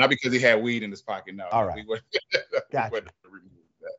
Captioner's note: laugh